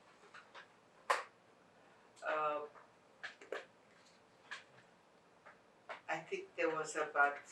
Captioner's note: pauses 6 seconds